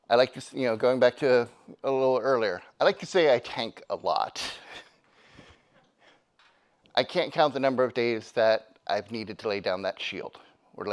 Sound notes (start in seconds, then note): 5.0 laughs; 5.7 attendee giggling